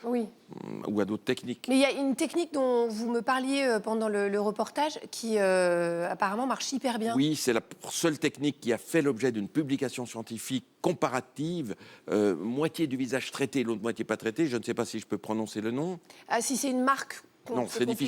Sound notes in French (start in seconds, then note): none